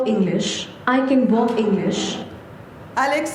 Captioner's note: non-english speech